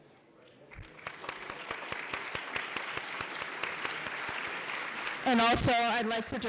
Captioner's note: applause